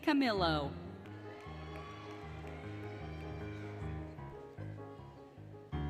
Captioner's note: applause, Cheering, Music